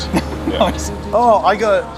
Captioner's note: laughs